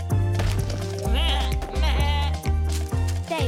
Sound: bleating

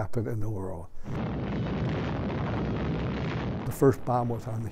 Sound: bomb blows

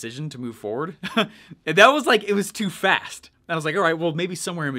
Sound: chuckles

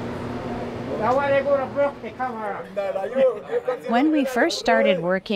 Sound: group speaking in foreign language

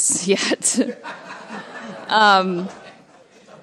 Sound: laughter

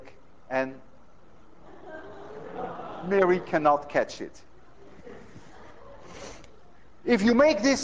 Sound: students laugh

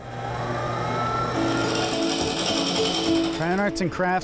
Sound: machine whirring

